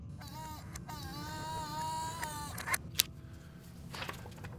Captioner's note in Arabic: طنين